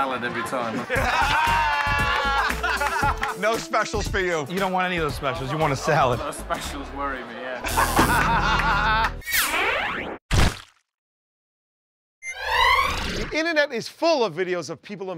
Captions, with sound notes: [ Laughter ] No specials for you. You don't want any of those specials? You want a salad? [ Buzzer ]